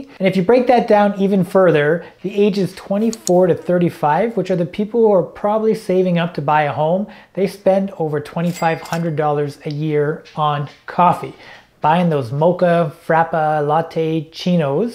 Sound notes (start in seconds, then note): 3.4 mouse clicking; 8.5 cash registering dinging